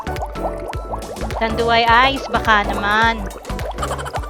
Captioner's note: laugh